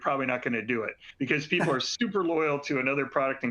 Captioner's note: laughter